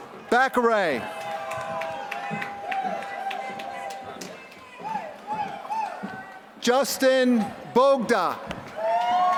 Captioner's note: applause; applause